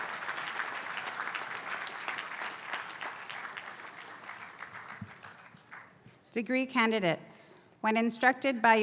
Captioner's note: applause